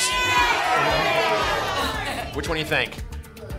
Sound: audience shouting games

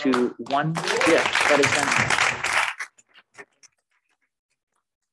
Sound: attendees applauding

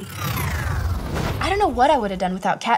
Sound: scene whooshes

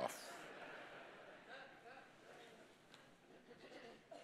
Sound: congregation laughing

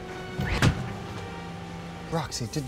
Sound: door thuds

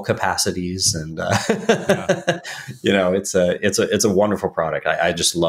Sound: laughs

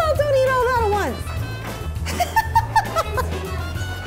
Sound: laughing

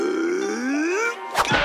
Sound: both grunting

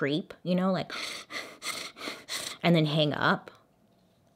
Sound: heavy breathing

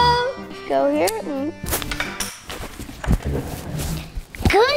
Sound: granny voice; plastic clatters

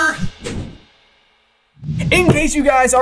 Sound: logo swooshes

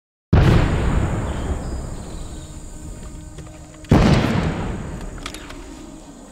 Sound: gunshots booming; birds twittering

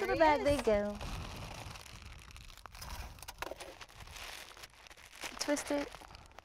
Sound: crinkling plastic bag

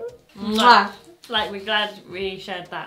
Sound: kiss

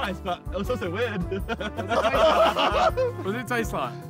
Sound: all laughing

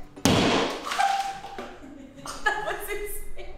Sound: sledgehammer bangs; chuckles

